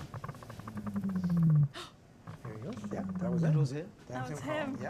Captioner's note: deep, resonant rumbling; gasps